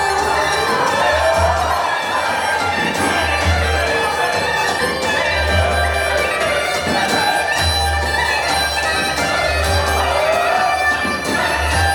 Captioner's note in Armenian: ծափահարություն